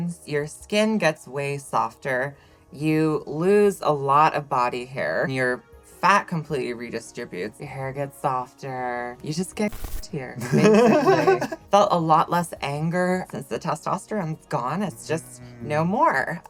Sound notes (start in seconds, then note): 10.4 laughs